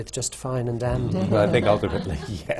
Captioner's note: laughter